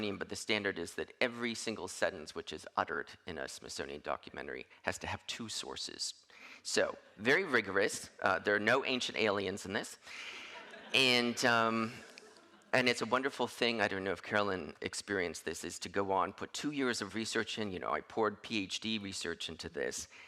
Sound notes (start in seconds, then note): 10.2 audience laughing